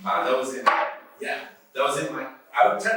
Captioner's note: taps chess piece against the board